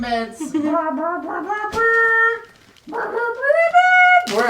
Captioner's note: mimics trumpet